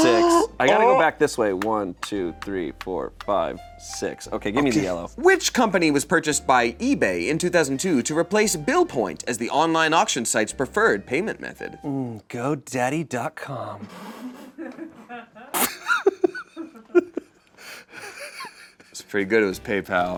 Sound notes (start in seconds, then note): 14.3 laughs